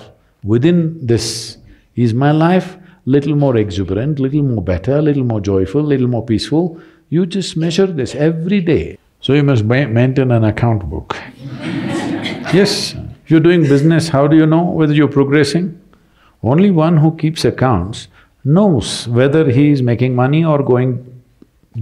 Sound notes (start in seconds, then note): 11.3 laughter